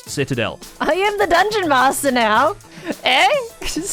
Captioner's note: giggles